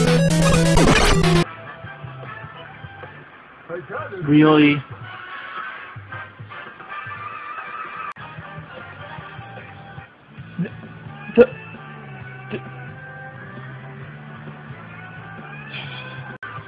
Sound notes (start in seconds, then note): 10.4 stammers